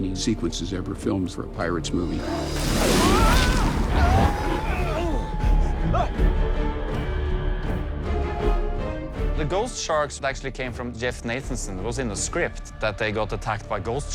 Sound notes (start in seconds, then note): 2.2 henry screams; 3.0 both grunt